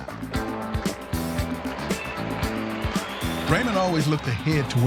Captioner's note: crowd cheering